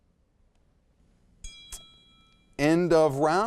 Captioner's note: bell dings